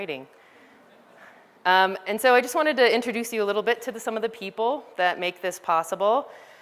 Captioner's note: laughter